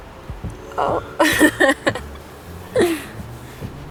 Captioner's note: laughing